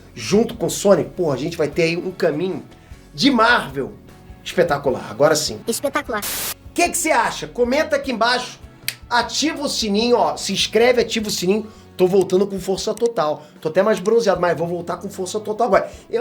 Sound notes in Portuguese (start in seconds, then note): 5.7 Tobey distorcido